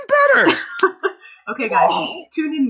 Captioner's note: laughter